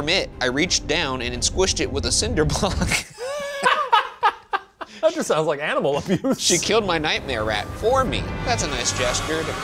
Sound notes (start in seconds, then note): 2.5 laugh